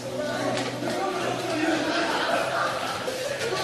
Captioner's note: clamoring